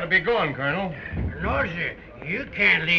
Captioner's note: slurring